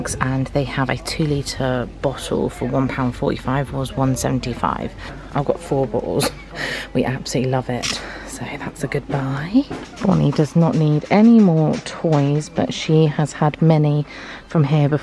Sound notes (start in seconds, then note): 6.5 laughs